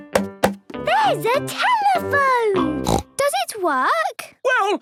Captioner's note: snorts